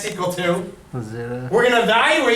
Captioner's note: voiceover